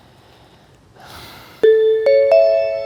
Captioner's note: sigh; musical chime